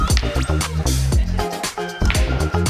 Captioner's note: people laughing; lively music continues